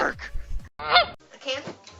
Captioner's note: goose honking